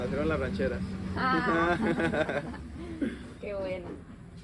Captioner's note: laughter